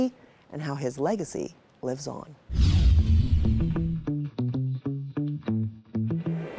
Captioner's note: screen whooshing